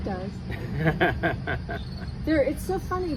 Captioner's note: laughs